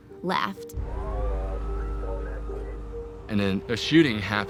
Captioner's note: sirens